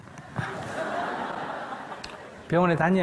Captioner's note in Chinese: 听众 笑